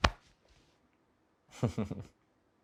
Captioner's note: se ríe